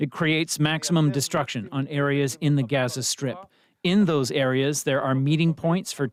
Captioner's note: speaking alternate language